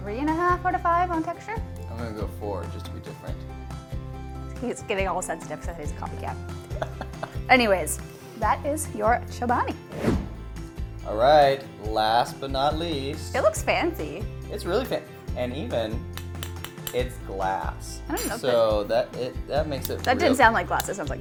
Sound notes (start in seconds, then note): 6.6 laughs